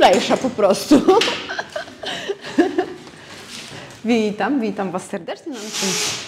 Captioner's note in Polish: śmiech